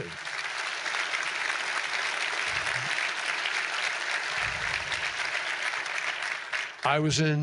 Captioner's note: applause